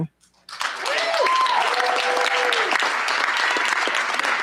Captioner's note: cheers, applause